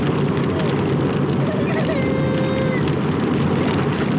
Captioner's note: crying